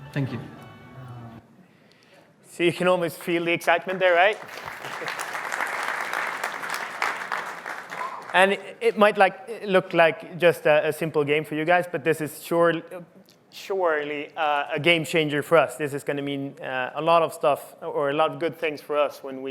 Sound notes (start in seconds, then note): 4.6 applause